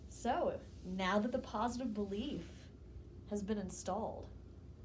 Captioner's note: none